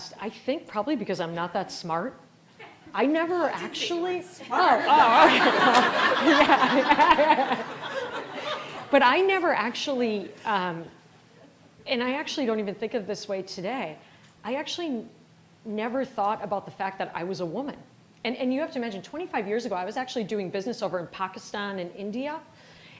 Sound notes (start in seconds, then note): 6.5 all laughing